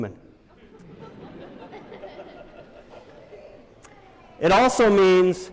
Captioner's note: laughter